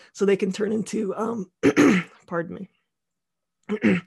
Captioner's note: clears throat